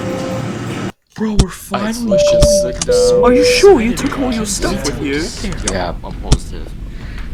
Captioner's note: passengers chatting and taking their seats